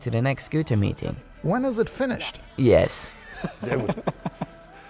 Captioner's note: laughter